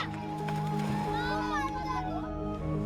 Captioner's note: children chattering indistinctly